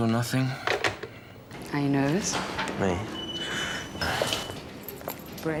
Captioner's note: hangs up phone; sighs nervously